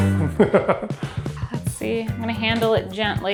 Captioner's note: upbeat music; laughs